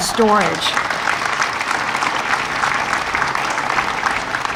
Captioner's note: audience applauding